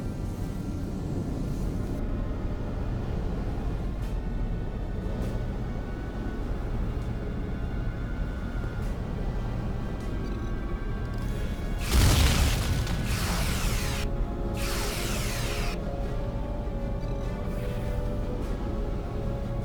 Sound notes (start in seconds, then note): 7.8 tires screeching